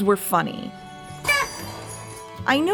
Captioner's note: comical honking sound